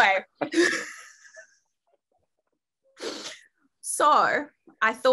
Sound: both laugh

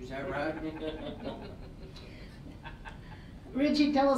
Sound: all laughing

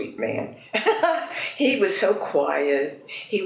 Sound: laughs

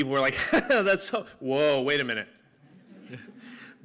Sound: laughter

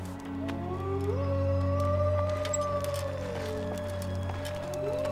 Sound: animal howling

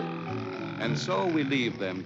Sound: snoring

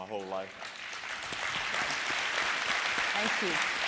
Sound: applause

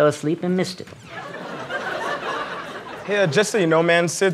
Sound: laughter

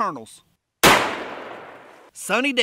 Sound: gun fires

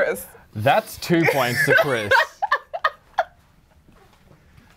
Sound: laughing

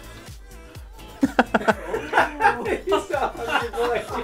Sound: laughing

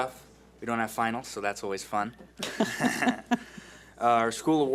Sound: laughs

